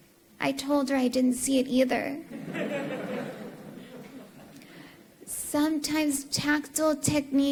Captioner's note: laughter